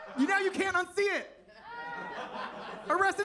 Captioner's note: attendees laughing